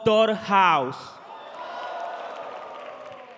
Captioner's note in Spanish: Vítores y aplausos